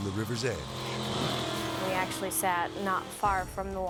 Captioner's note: boat buzzing